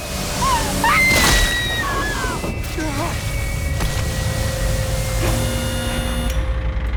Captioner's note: driver screams; Christina screams; body thumping; machine whirring